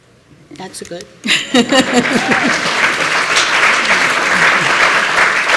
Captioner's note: applause